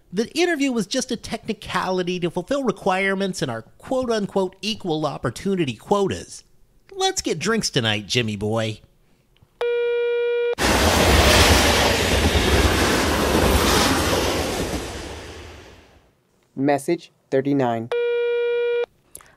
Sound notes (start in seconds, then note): 9.6 phone tone; 10.6 train noise; 17.9 phone tone